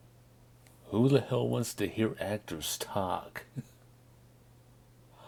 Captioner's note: laughs